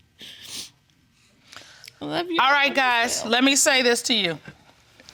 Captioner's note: sniffles